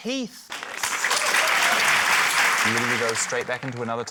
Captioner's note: applause